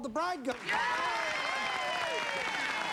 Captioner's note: cheering